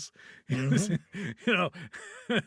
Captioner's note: laughing